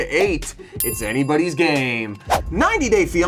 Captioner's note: bell rings